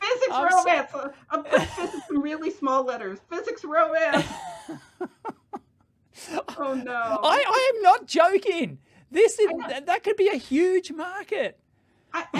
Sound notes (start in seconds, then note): 4.1 laughter